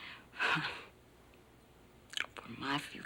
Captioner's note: chuckles nervously